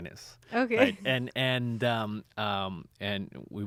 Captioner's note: laughs